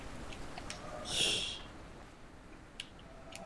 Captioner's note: laughs softly